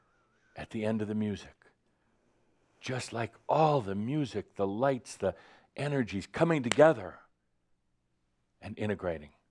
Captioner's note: clap!